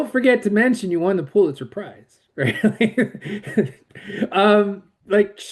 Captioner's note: laughs